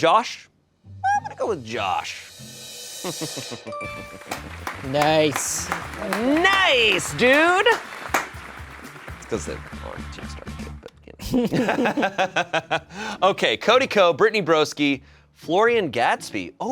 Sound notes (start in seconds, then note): 2.8 drum roll hisses; 3.0 chuckles; 3.7 bell chimes; 11.3 everyone laughs